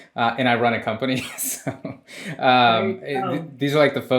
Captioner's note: laughs